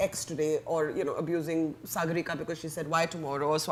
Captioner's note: speaks quickly